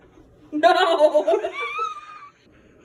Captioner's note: laughter